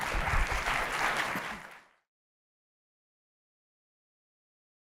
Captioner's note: audience applause